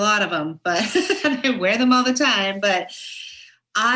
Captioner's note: laughs